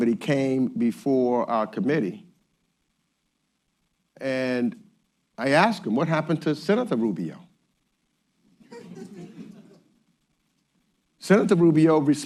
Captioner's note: laughter